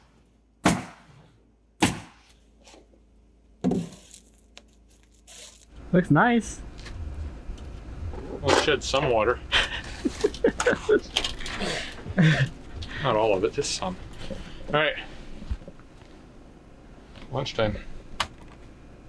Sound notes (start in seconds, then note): 3.7 hammer scrapes on wood; 9.3 laughs